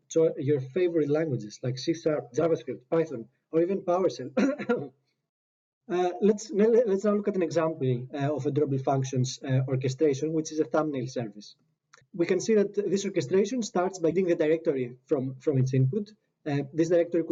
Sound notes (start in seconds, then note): 4.3 guilty cough